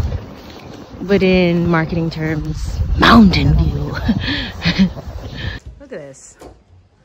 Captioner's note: laughs